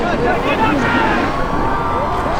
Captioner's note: cheering; crowd cheering